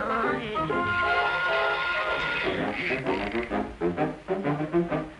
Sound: spool unreeling

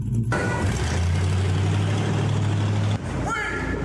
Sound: engine rumbling; engine roaring

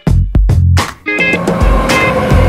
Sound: train sound

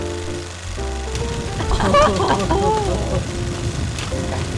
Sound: fireplace sounds and group laughter

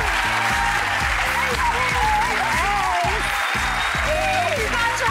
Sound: crowd applauding

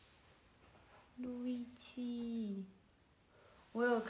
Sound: japanese

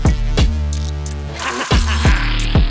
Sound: intense Music; maniacal Laughing

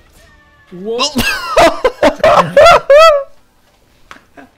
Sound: earrape laughter

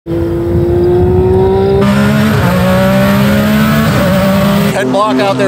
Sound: engine Revving

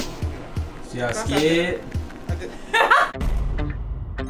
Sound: laughing; disco music

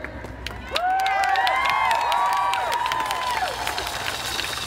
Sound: crowd cheering

